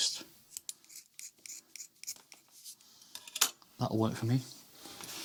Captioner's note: scissors grinding